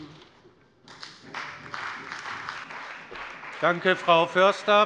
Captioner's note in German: Beifall bei dem BÜNDNIS 90/DIE GRÜNEN und der CDU